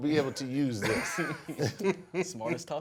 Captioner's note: laughs